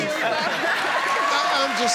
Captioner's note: audience cheers